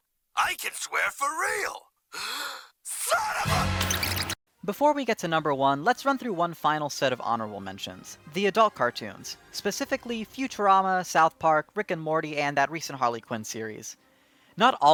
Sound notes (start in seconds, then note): 2.1 inhales